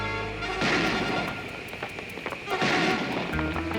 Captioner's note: tense music; gun bangs